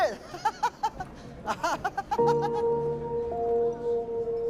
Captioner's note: laughing; laughs